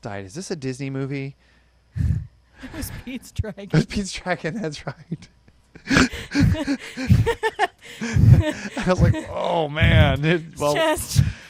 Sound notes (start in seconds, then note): 2.6 chuckles; 5.8 both laughing; 5.8 laughs